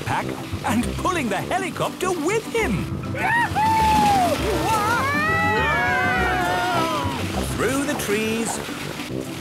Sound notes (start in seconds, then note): 4.6 all screaming excitedly